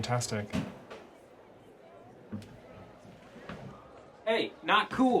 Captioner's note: crowd indistinctly chatting